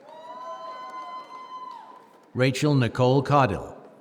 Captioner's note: applause